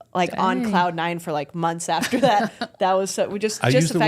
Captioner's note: Michelle laughing